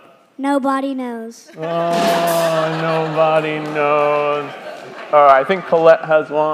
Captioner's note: crowd laughing